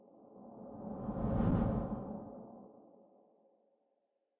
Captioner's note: whoosh sound